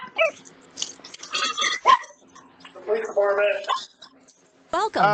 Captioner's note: Ella continues barking; via Ring doorbell, uneasy